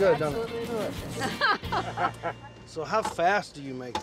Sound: chuckling

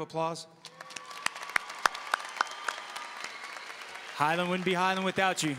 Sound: audience cheering and applauding

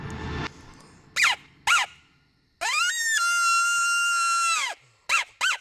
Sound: coyote call

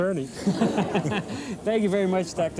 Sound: laughing

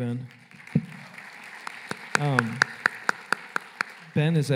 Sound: applause

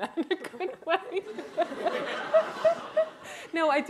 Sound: laughter

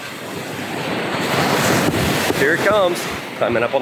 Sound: waves splashing

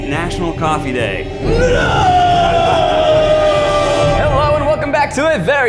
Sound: crying out in pain

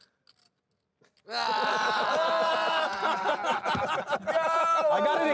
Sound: laughing

